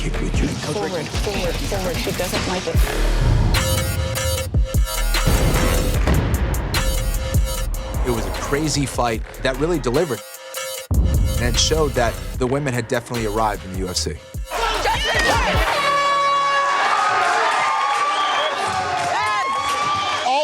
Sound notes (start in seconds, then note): 13.0 horn blares; 14.5 cheers and applause